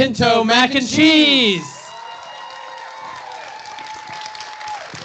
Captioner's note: cheering